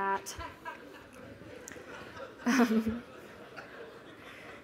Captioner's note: laughter